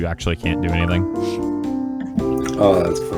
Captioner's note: innocent sniff